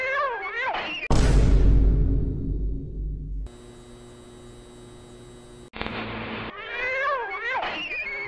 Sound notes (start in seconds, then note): 1.1 dramatic thud; 3.4 lights humming